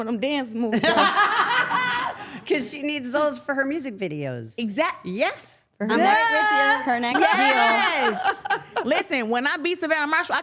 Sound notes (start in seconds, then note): 0.9 everyone laughing